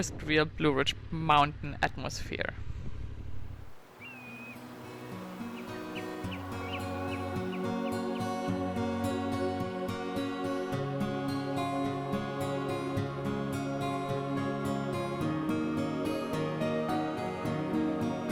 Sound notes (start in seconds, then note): 3.6 birds chirping; 4.3 ethereal music